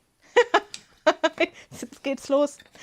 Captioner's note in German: Gelächter